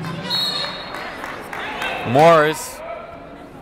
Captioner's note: whistle blowing